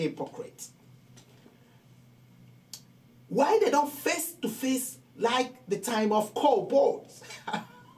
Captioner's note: laughing